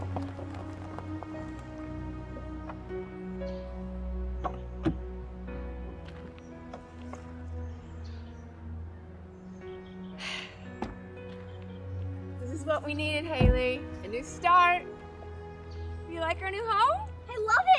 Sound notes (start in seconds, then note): 1.6 pleasant piano music; 10.2 Diane sighing